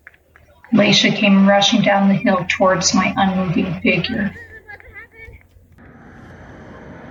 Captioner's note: footsteps